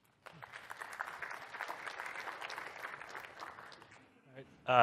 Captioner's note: applause